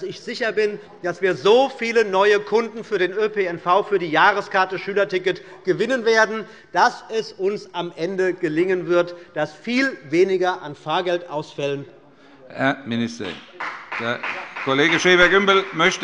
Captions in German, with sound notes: Ich bin mir deswegen sicher, dass wir so viele neue Kunden für den öffentlichen Personennahverkehr und für das Jahresschülerticket gewinnen werden, dass es uns am Ende gelingen wird, viel weniger Fahrgeldausfälle zu haben. [Beifall bei dem BÜNDNIS 90/DIE GRÜNEN und bei Abgeordneten der CDU] Herr Minister, Herr Kollege Schäfer-Gümbel